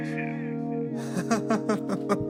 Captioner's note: laughs